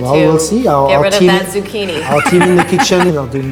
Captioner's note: laughter